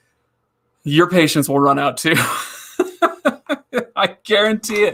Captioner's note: laughing